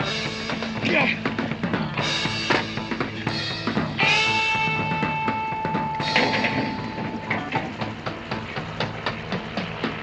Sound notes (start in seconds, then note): 0.7 both grunting